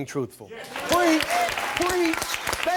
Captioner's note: audience applauding and cheering